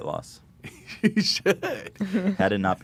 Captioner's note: laughs